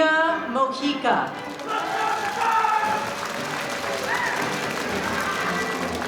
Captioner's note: audience applauding